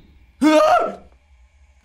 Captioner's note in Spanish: Grita